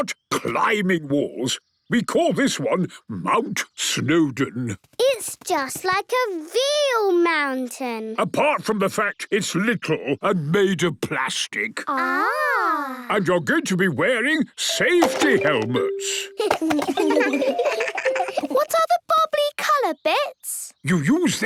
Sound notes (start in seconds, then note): 16.2 giggles